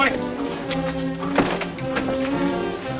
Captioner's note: door closes